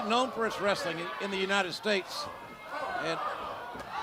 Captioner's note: crowd chatter